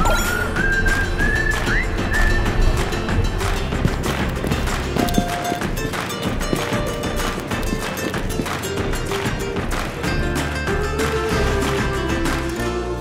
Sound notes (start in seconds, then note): 0.0 pinging noise; 3.9 stomping dancing